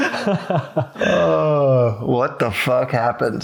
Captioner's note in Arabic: يضحكون